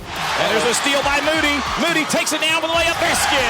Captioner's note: voiceover